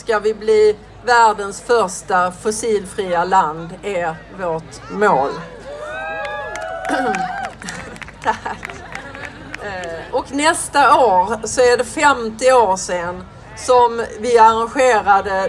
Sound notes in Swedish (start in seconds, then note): 6.2 applåder